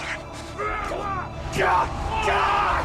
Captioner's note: grunting